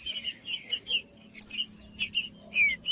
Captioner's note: trinca ferro cantando